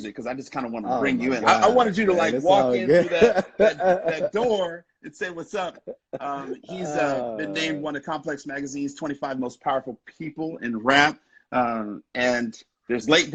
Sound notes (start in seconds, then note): 3.5 laughing